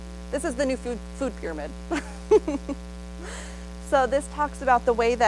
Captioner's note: laughs